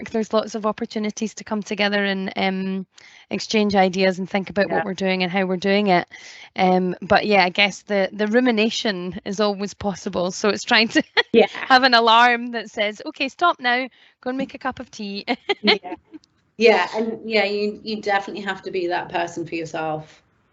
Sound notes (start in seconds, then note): 10.9 laughs; 15.2 laughs